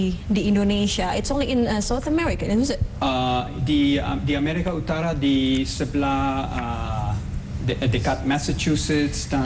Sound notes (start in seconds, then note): 4.6 non-english speech